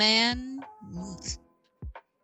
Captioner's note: instant regret noise